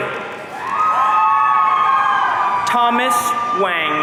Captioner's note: audience cheering